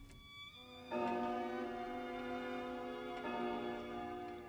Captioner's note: jam berdentang